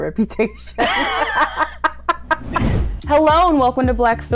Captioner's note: laughter